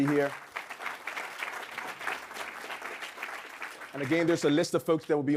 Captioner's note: audience clapping